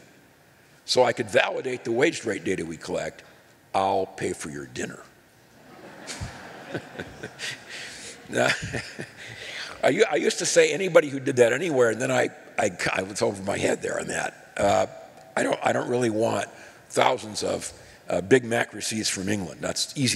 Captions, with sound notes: THE WAGE RATE WAS AND YOU SENT THAT TO ME SO I CAN VALIDATE THE WAGE RATE DATA WE CHECK, I'LL PAY FOR YOUR DINNER. [ LAUGHTER ] I USED TO SAY, ANYBODY WHO DID THAT ANYWHERE, AND THEN I WAS OVER MY HEAD THERE ON THAT. I DON'T REALLY WANT THOUSANDS OF BIG MAC RECEIPTS FROM ENGLAND.